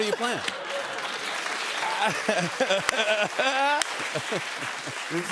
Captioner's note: applause